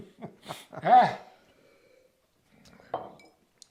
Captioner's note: laughs